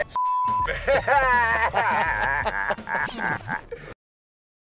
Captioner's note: laughter